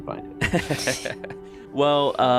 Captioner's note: laughs